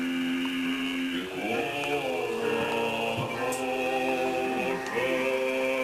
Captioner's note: TV on the background